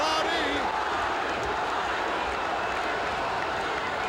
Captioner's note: audience cheering